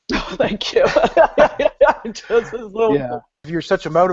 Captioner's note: laughs